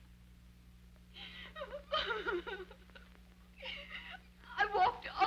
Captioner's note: Becky sobbing